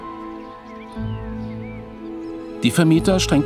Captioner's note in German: Vogelgezwitscher